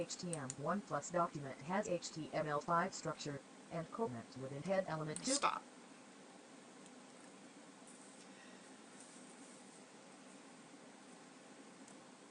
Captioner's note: audio voice of screen reader continues